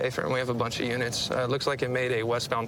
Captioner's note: none